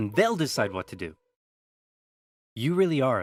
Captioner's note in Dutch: stilte